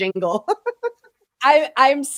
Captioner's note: laughing